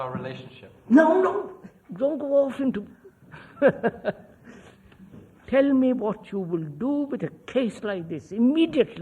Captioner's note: laughs